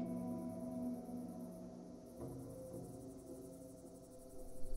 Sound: crickets chirping

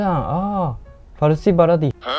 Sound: Farsi

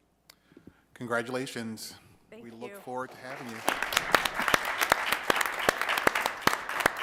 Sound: applause

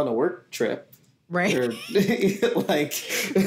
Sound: laughs

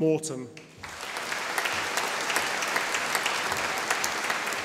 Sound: audience applauding

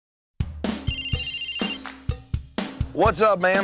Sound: cell phone rings

